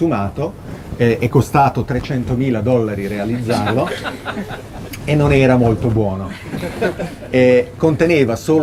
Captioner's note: laughing